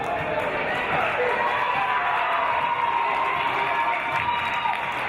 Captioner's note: applause and cheers